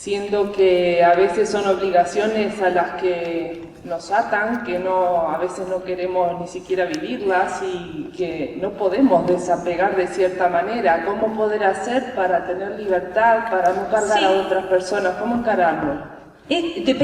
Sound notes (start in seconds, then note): none